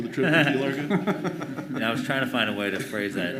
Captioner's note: board members laughing